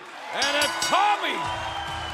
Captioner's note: bell ringing